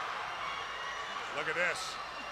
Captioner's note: crowd chatter